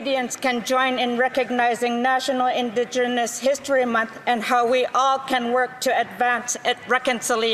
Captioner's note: speaking Indigenous Language